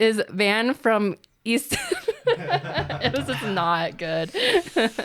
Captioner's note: both laughing